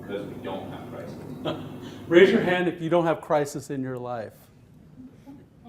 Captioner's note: chuckles